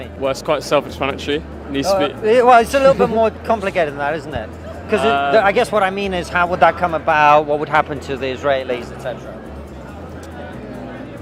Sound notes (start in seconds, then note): 2.7 laughs